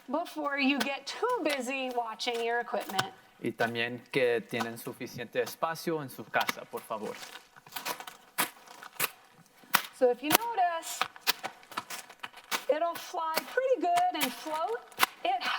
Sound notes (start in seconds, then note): 3.7 in foreign language; 7.5 plastic crinkling and popping